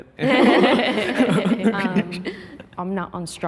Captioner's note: group laughing